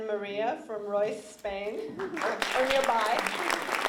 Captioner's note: applause